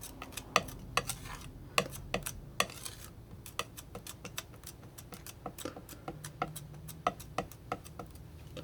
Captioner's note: scratching